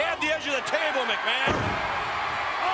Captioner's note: audience cheers